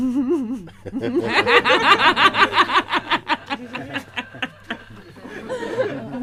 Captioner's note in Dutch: Vraagsteller en Mooji lachen